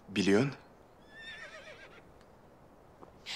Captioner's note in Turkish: Hayvan sesi